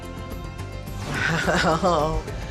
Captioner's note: laughing